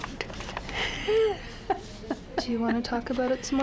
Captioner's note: laughing